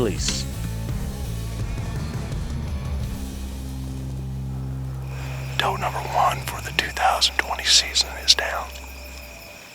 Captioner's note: whispering